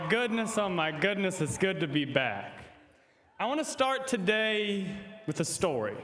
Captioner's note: applause